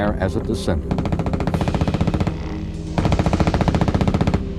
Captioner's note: gunfire blasting